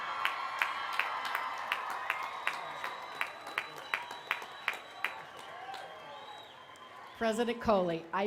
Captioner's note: applause